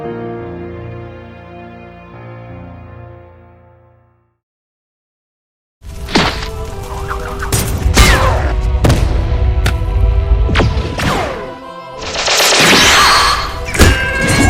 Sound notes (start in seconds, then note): none